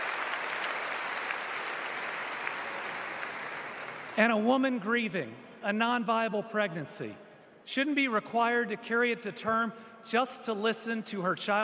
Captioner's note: applause